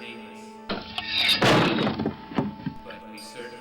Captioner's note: blade chops